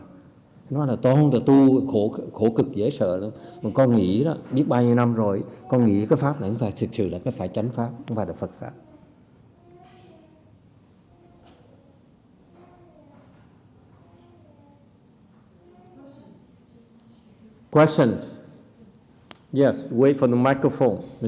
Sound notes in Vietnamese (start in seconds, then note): 9.1 silence